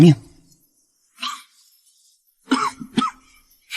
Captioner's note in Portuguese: tosse tosse tosse